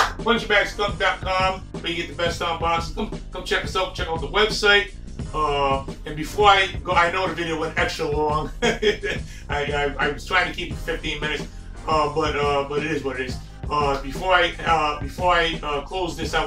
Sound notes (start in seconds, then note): 0.0 hand clapping; 8.4 laughs